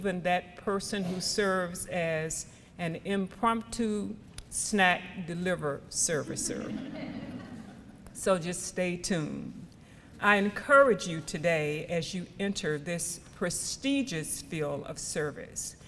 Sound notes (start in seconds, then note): 6.5 audience laughs